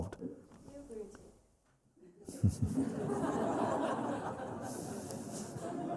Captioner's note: laughter